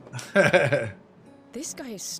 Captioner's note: laughs